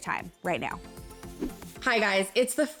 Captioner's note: soft music; wind whooshing